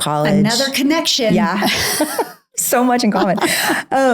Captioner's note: laughs